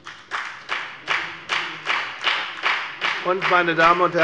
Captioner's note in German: Beifall bei der FDP